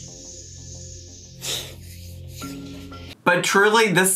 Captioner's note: Amy sighs